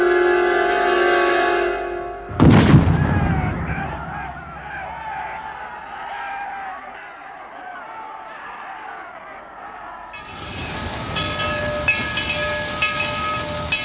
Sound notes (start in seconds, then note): 2.3 cannon booms; 5.1 shouting; 10.1 train bell clanging